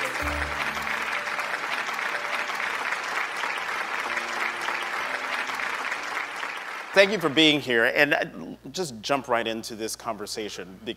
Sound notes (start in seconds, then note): 2.4 audience clapping